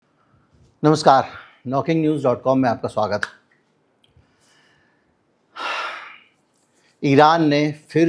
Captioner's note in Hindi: गहरी सांस लेने की आवाज़